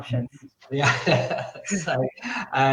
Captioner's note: laughs